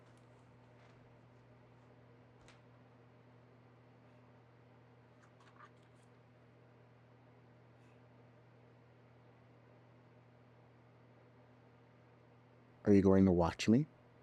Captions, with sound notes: (page rustling) Are you going to watch me?